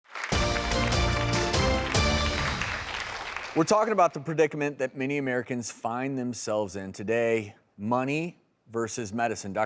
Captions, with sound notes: (clapping) (upbeat music) - We're talking about the predicament that many Americans find themselves in today, money versus medicine.